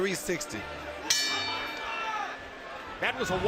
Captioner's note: bell rings